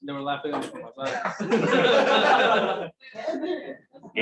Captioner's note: laughter